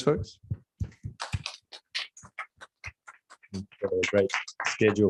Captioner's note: applause